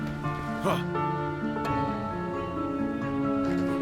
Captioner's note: Bardo shouts as he leaps